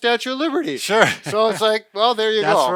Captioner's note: laughs